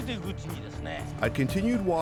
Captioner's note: speaking Japanese